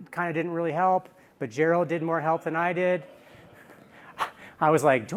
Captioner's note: laughter